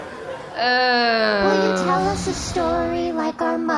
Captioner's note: audience laughter